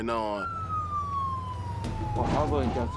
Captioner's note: sirens